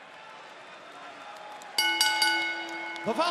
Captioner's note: bell ringing